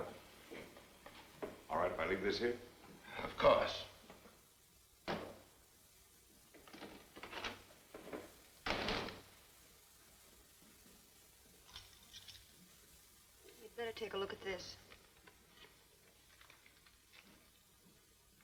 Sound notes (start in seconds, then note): 8.6 door closes